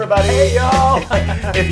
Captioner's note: laugh